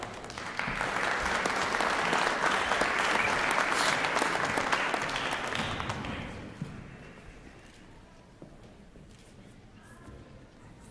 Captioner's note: applause